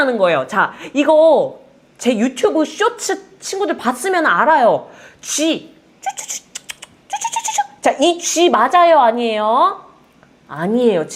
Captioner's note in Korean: 쥐 소리